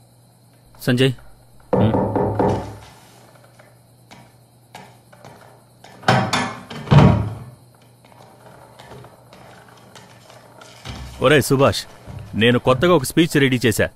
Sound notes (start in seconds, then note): 6.0 door opens